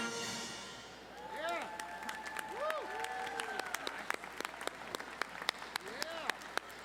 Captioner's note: audience cheering and applauding